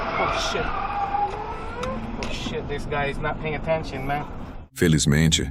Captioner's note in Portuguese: grito